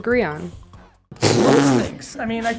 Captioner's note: blows raspberry